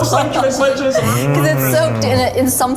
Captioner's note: echoes